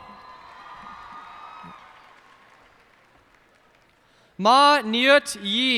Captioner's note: cheers and applause